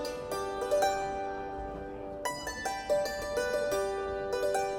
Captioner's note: makes a sustained, ringing sound